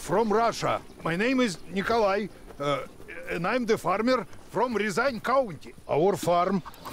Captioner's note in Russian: на английском